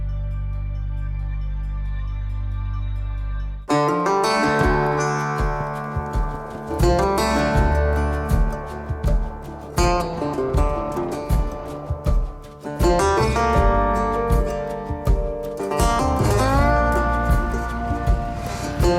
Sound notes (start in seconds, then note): 4.2 footsteps stomping; 4.2 upbeat music